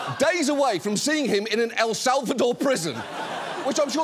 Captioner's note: audience laughs